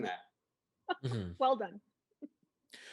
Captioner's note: laughing